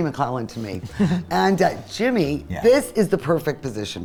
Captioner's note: chuckles